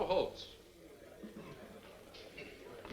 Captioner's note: spectators murmuring